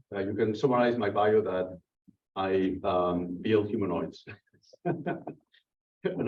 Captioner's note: laughs